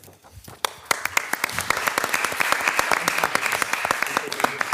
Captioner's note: participants clapping